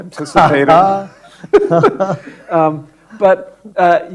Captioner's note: panel laughing